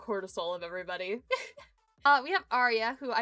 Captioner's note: giggles